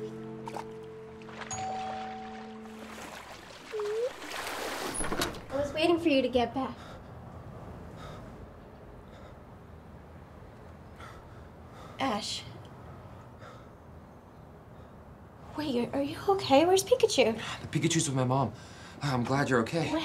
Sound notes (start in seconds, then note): 1.4 doorbell ringing; 3.7 water splashing; 7.2 breathing loudly